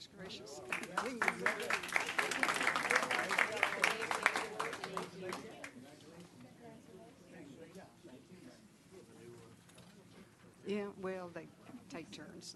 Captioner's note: applause